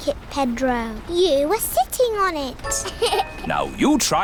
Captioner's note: laughs